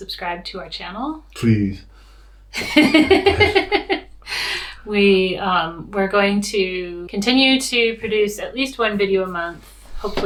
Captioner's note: laughs